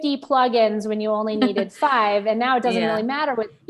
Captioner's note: laughing